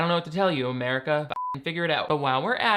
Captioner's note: beep